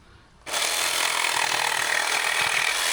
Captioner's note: drill whirring